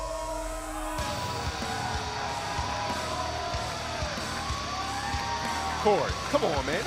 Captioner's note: crowd cheering